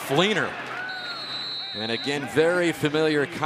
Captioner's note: whistle